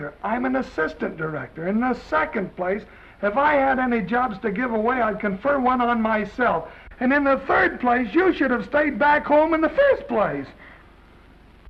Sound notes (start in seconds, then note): none